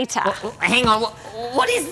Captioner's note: laughing